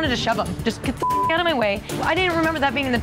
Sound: beep

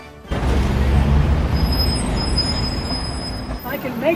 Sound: traffic roaring

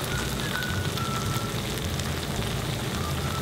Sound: sizzling

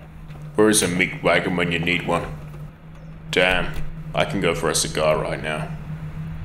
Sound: voiceover

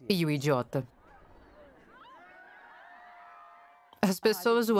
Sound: crowd cheering

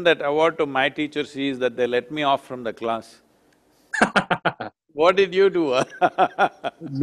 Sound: both laugh; laughs

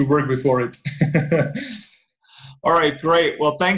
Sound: laughs

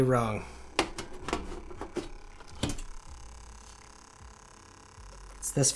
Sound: buzzing sound

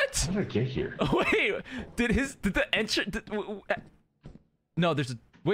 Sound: stutters

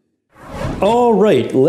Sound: air whooshing

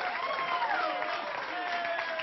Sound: applause

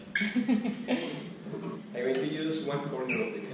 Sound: laughing

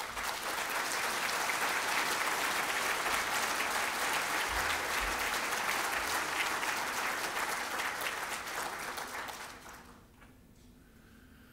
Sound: applause

